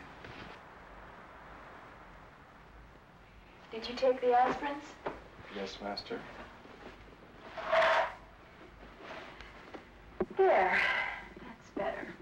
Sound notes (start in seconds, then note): none